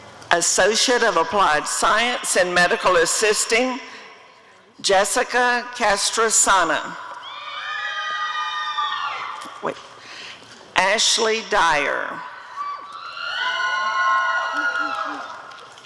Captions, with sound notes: Associate of Applied Science in Medical Assisting— Jessica Castresana [audience cheering] Ashleigh Dyer [audience cheering]